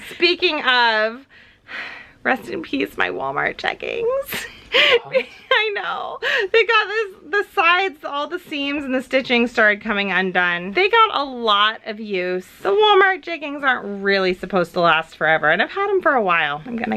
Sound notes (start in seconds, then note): 4.3 laughs